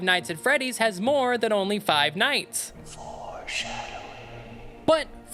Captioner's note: mysterious voice